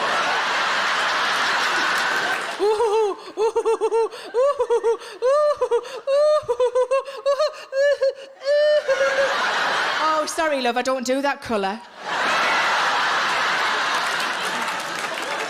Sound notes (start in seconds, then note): 0.0 audience laughing; 2.9 hysterical laughter; 12.0 audience laughing